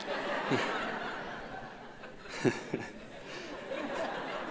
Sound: audience laughs

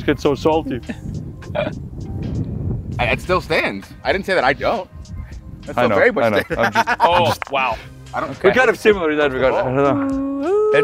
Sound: laugh

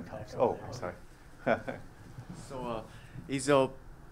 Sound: laugh

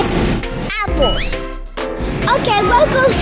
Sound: spring bouncing

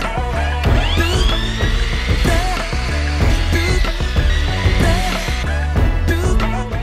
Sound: miter saw whirring

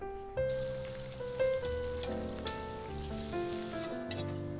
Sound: food sizzling

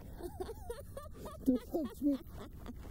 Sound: Kate laughs

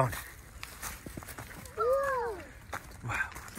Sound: footsteps

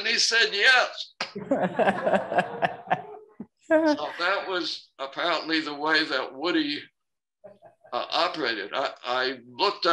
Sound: laughter

